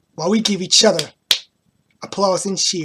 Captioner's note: claps